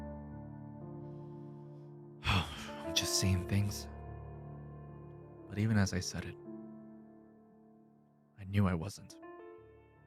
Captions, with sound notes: (sigh) I'm just seeing things. But even as I said it, I knew I wasn't.